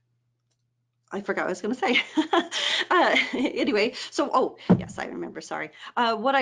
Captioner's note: laughs